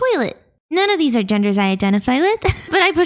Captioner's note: laughs